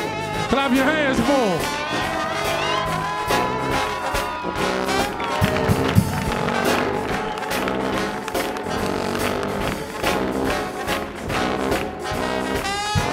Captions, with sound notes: - Clap your hands for him. (audience applauds) (gentle upbeat brass band music)